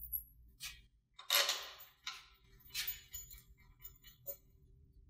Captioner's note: metal clinking